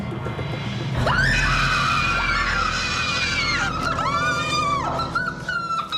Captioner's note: screams and shrieking